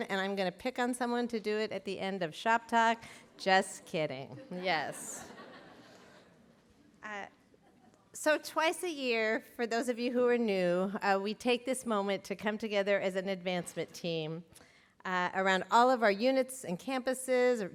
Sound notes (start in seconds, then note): 4.8 laughter